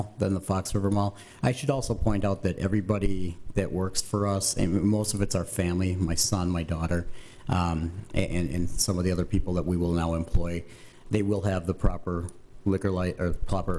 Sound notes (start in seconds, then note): none